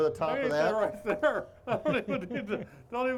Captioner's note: chuckling